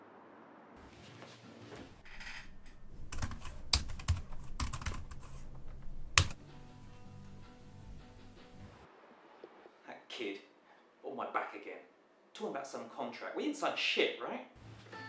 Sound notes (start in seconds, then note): 2.0 keys clicking